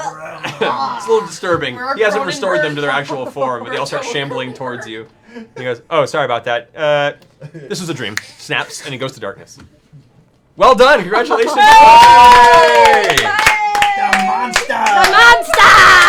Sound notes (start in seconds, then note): 11.4 cheering